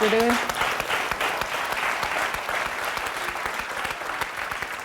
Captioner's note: crowd clapping